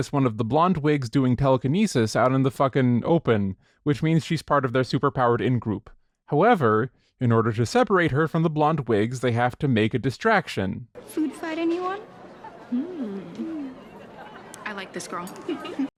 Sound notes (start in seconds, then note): 12.6 delighted humming; 15.3 giggles